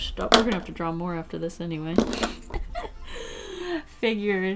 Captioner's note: laughs